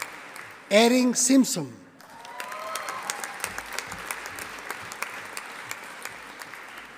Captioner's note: audience applauding